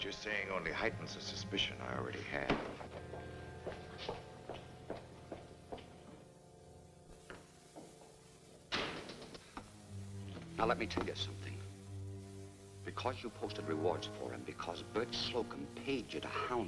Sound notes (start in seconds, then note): 2.5 book closes loudly; 8.7 door closes